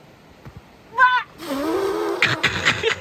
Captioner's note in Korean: ㅍㅍㅍㅍㅍ